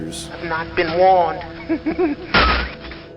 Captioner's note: laughs